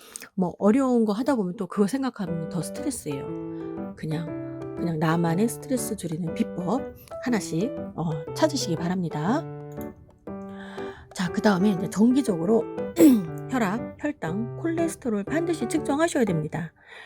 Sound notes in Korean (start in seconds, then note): 12.9 기침